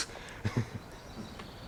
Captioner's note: laughing